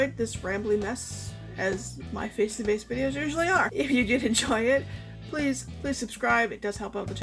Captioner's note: laughs